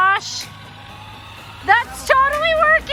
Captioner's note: wheels accelerating